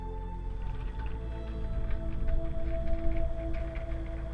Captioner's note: tractor rattling